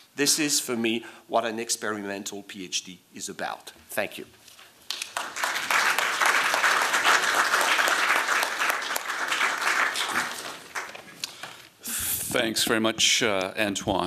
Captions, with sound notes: This is, for me, what an experimental PhD is about. Thank you. [applause] Thanks very much, Antoine.